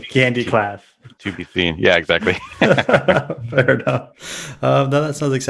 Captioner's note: laughs